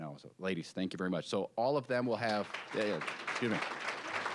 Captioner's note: applause